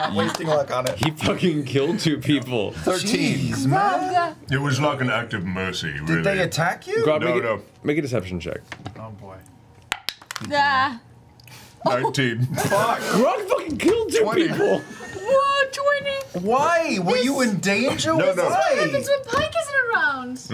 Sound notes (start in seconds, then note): 0.0 laughs; 11.3 nervous sound; 12.4 all laugh